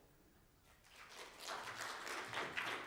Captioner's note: audience applauding